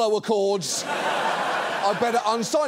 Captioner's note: audience laughs